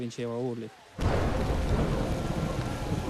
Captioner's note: thunder cracks